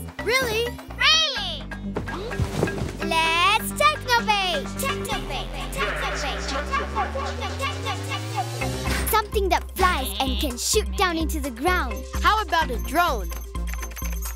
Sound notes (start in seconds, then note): 4.9 echoing; 13.1 keyboard clicking